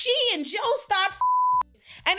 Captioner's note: beep